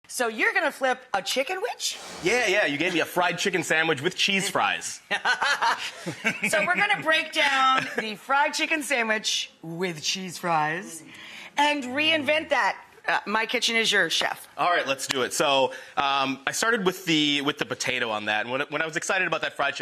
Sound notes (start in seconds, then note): 5.2 laughs; 9.7 low voice